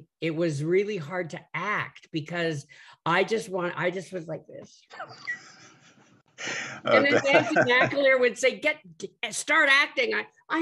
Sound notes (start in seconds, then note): 4.6 laughs